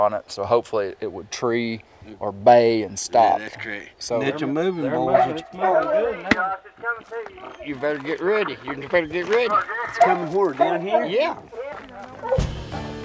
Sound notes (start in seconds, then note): 3.8 man On Radio; 12.8 upbeat country music